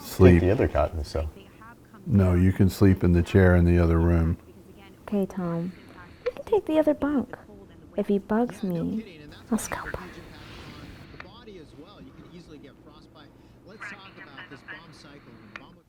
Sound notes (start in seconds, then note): 8.9 whispers